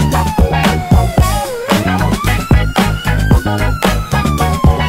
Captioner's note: applause